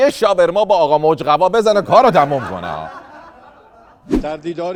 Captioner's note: laughter